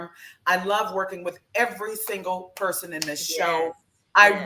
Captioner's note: clap hands